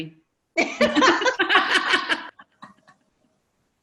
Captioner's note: laughter